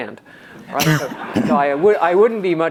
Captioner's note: audience laughs